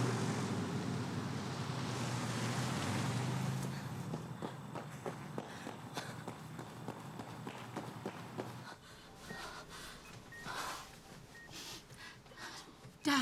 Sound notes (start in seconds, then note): 5.3 Cassie panting; 9.9 monitors beeping